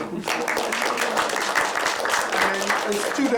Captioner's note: applause